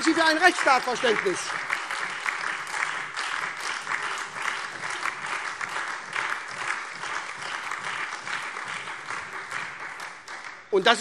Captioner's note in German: Beifall SPD, AfD, Freie Demokraten und DIE LINKE